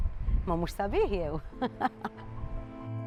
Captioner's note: chuckles